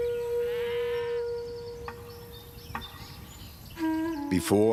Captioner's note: birds chirping